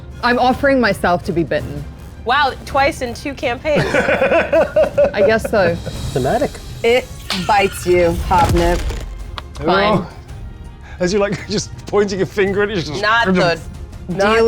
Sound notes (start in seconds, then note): 3.7 laughs